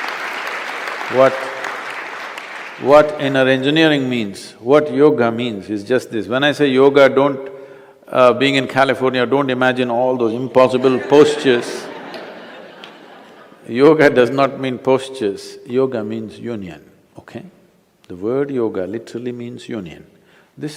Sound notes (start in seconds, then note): 0.0 applause; 13.2 laughter